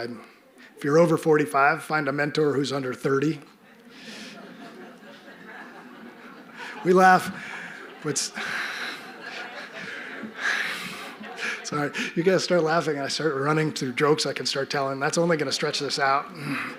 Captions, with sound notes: If you're over 45, find a mentor who's under 30. (audience laughing) You laugh... Sorry, you guys start laughing and I start running through jokes, I can start telling that's only going to stretch this out.